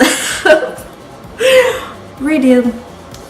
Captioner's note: deep Breath